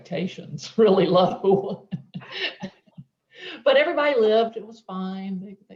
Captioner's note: chuckling